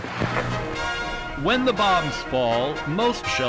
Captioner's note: horns blaring